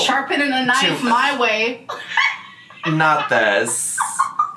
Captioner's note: laughs